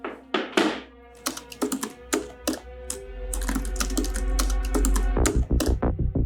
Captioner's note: Kat typing aggressively